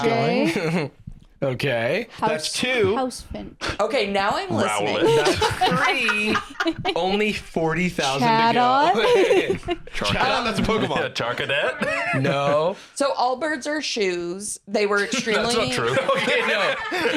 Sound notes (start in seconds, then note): 5.2 laughs